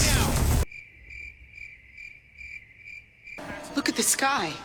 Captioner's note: crickets chirping sound